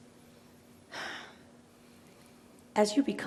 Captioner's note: Lena sighs